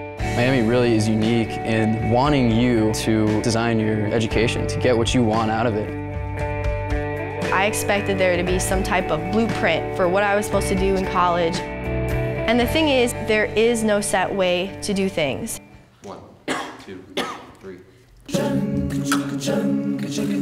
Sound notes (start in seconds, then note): 16.4 coughs; 18.4 singing a capella